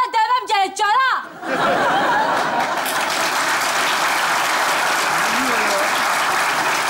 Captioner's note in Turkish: Kahkaha ve alkış sesleri